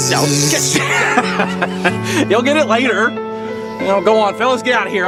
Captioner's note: laughs